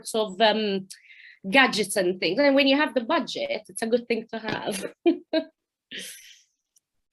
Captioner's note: chuckling